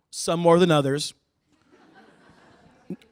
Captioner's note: laughter